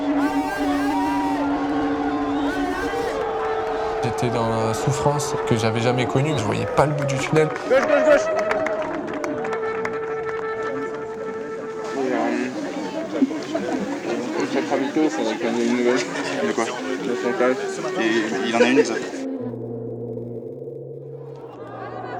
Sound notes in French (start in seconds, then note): 2.4 acclamation